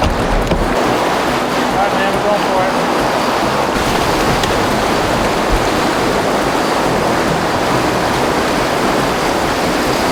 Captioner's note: water splashing